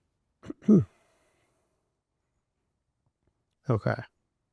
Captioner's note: coughing